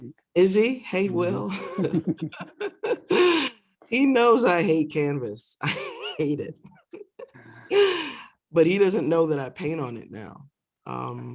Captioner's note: laughter